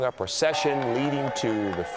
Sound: bells

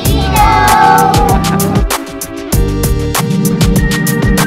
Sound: laughs

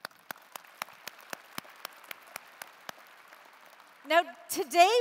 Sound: applause

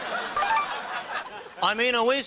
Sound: audience chuckles; buzzer rings

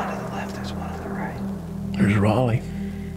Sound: whispering

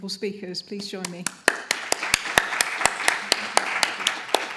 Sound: applause

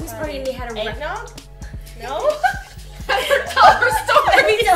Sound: laughter

